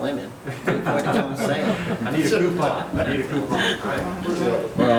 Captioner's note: members laughing